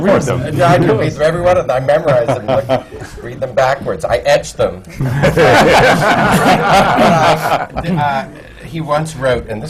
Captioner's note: laughter